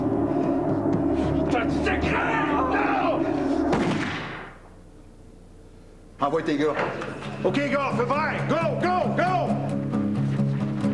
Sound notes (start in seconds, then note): 3.7 Coup de fusil